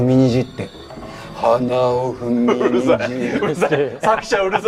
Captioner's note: speaking like singing Enka again